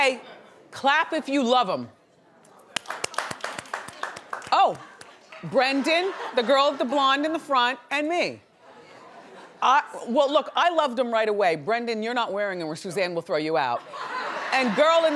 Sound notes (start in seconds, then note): 2.6 audience claps; 13.8 audience laughs